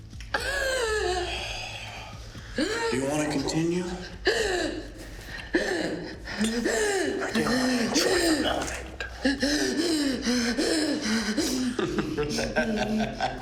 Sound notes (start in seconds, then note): 0.3 Mia crying; 9.0 Mia panting; 11.3 Ben laughing